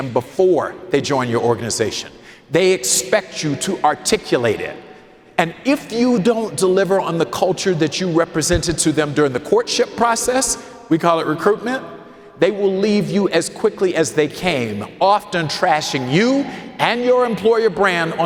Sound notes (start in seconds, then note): none